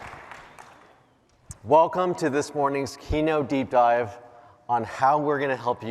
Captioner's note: cheers and applause